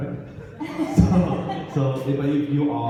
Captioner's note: audience laughs